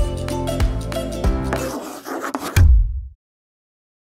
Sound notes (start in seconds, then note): 0.0 upbeat music; 1.5 pen scribbling